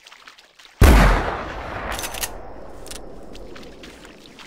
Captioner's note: rifle shot